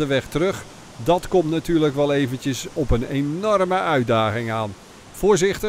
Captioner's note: voiceover